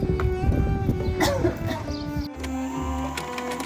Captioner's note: cough cough